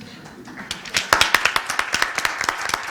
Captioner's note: applause